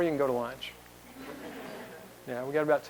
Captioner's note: laughter